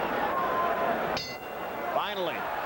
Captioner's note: bell rings